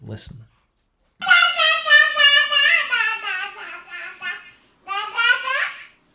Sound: baby speaks gibberish

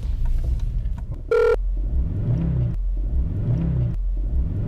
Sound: phone rings

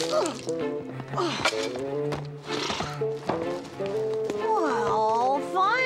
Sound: grunting

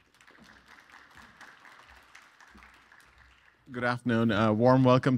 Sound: audience applauds

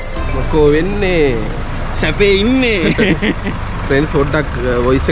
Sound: laughing

